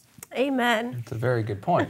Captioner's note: chuckling